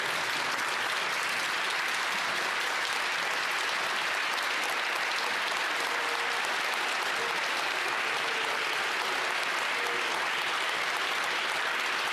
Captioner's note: some Applause